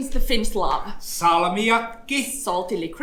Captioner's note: speaks in Finnish language